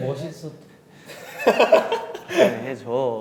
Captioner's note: sigh